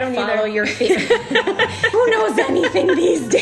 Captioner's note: both laugh